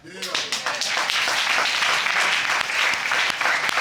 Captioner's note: audience applauding